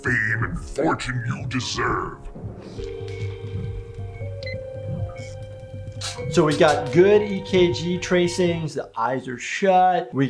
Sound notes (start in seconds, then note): 2.4 heart monitor beeping